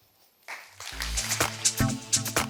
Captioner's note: audience applauds; upbeat music